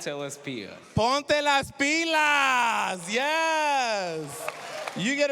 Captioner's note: speaking spanish